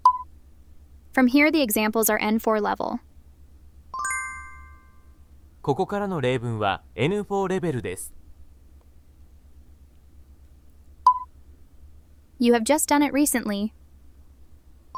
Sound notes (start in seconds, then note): 3.9 Japanese audio